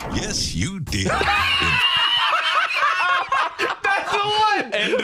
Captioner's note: both laughing